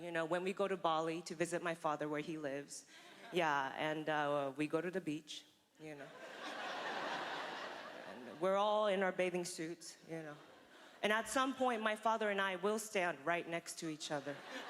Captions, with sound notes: When we go to Bali to visit my father where he lives. Yeah... and we go to the beach, you know... (laughter) And we're all in our bathing suits... And at some point, my father and I will stand right next to each other,